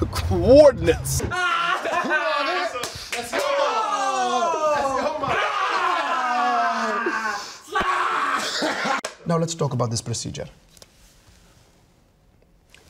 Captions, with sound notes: - Coordinates. (group laughing) (clapboard clapping) - Now let's talk about this procedure.